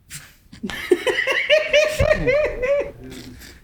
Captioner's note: both laugh